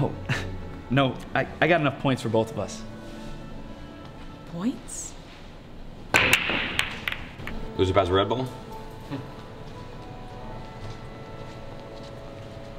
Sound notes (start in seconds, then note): 6.1 pool balls hitting